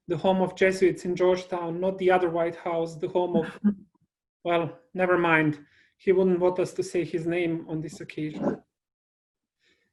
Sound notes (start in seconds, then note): 3.3 laughing